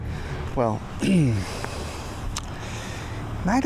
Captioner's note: clears throat